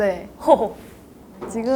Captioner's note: laughing